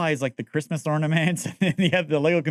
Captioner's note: laughing